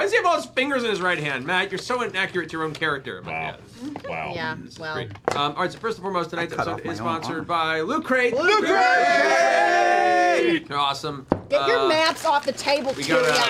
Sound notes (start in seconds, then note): 8.5 cheering